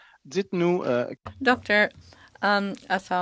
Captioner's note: speaking French